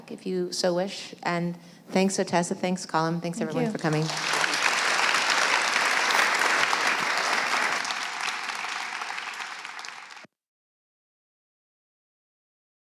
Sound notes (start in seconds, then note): 6.0 applause